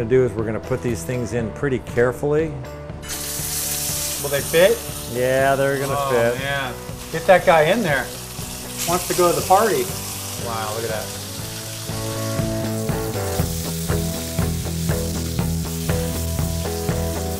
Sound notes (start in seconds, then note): 3.1 sizzling; 11.6 upbeat rock music